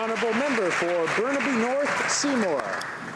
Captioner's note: applause